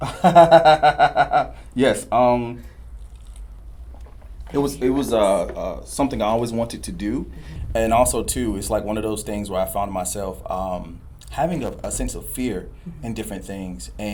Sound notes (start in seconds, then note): 2.1 laughs